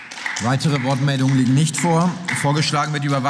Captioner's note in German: Beifall